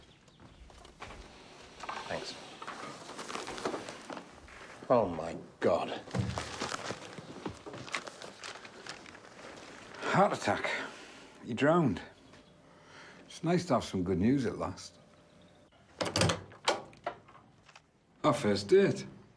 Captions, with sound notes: Thanks. Oh my God. (paper shuffling) - Heart attack. He drowned. It's nice to have some good news at last. (door opening) Our fist date.